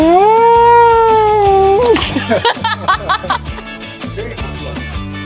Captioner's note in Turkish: kahkaha